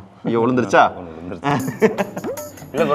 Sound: man laughs

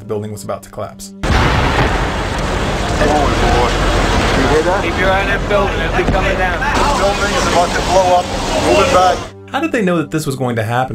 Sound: explosion

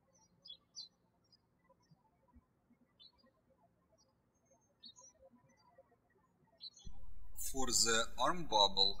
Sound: birds chirping

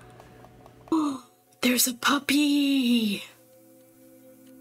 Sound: gasp

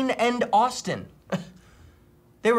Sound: scoffs

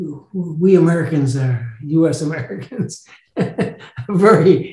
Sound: laughs

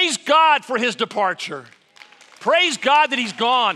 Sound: applause

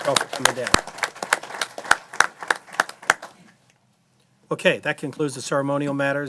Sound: applause

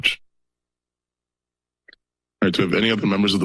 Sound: pause

